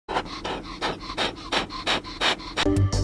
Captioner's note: balloon Inflating; intro Music